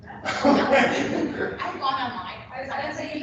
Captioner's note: laughter